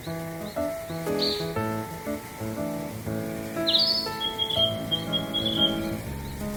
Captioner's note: summer birds